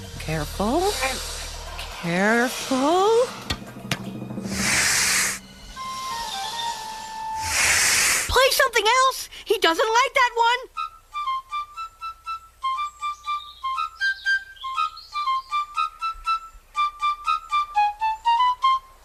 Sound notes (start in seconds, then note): 4.4 snake hissing; 5.8 flute music, snake hissing